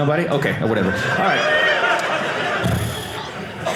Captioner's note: audience laughing